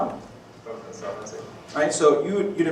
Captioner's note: faint reply